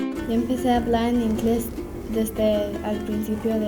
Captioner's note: speaking spanish